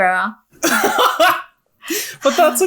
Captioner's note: laughing